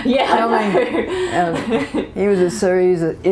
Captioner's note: laughter